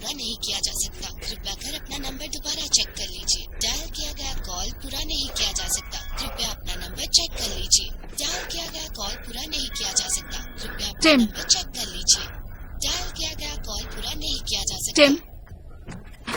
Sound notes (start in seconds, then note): 10.7 panting